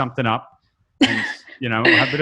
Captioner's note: laughs